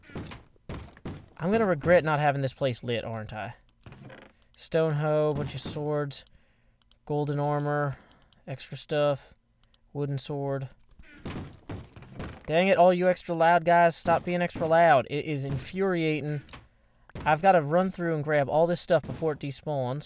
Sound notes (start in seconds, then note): 11.0 bang bang bang